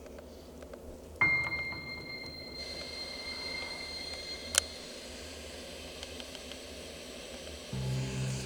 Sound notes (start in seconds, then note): 2.7 static increases